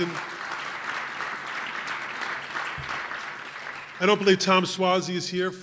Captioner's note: applause